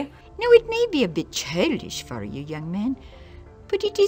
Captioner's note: woman speaking English